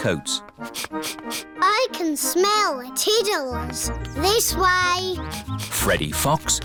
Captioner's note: sniffs